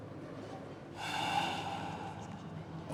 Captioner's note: sighs